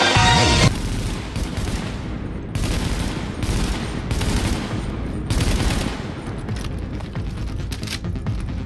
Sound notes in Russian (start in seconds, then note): 0.6 огонь очередями